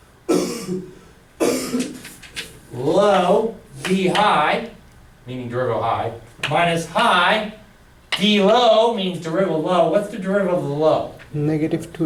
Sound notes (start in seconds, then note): 1.4 coughing; 11.9 voiceover